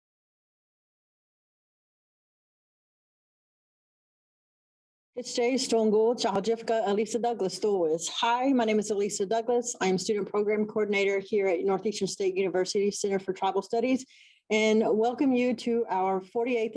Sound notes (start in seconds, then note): 6.4 introduces self in native language